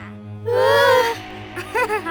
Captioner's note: princesses gasp; Malice laughs